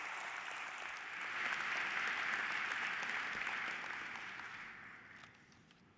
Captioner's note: applause